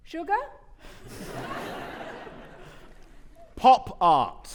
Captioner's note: audience laughing